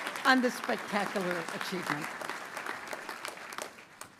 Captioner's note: cheers and applause